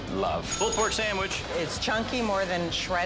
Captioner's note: bell dings